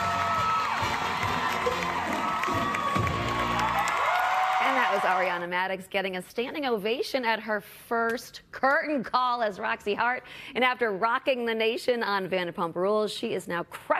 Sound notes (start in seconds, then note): 2.8 cheers and applause